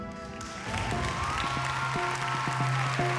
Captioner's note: audience cheering